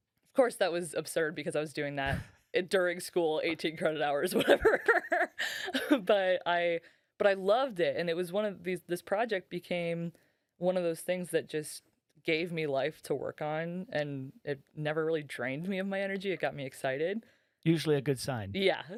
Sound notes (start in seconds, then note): 6.2 laughing